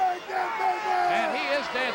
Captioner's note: shouting